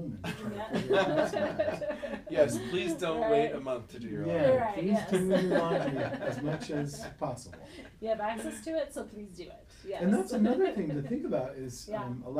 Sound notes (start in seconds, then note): 0.2 laughing